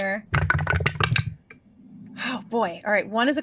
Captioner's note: dice rolling